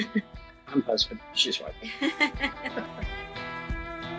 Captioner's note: laughs